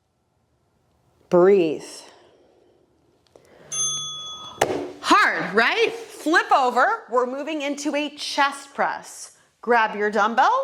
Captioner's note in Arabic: قرعات الجرس